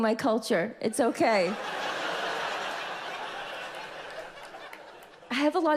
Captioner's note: audience laughs